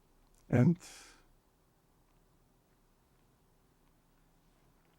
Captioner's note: pauses 6 seconds